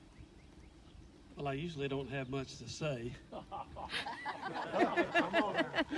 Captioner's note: audience laughter